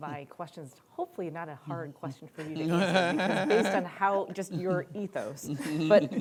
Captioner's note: laughter